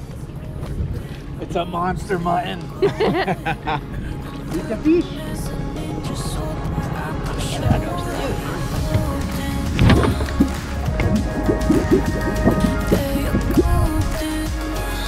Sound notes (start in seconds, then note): 2.8 laughter